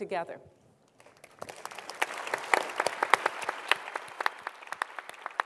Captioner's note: applause